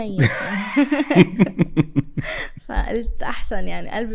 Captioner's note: laughter